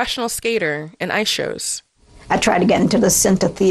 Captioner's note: soundbite of archived recording